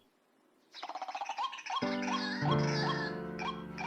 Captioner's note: woman speaking in a foreign language; birds chirping; gentle music